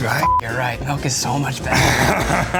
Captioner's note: beep